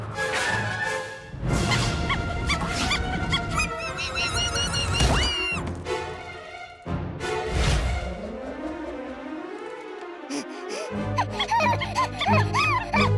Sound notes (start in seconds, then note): 0.1 suspenseful music; 2.4 screaming; 11.2 vocalizing